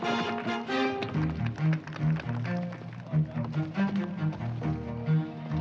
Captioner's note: audience applauding